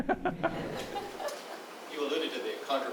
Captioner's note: laughs